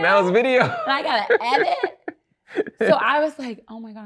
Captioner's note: laughs